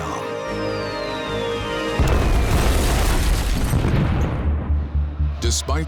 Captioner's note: bombs exploding